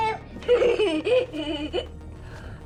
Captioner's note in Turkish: gülmek